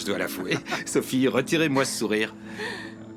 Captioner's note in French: rires